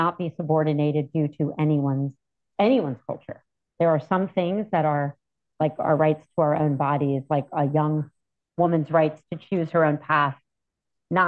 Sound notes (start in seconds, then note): none